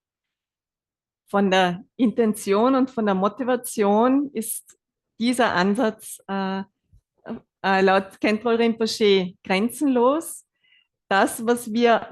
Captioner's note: German live translation